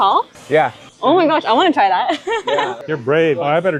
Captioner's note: laughing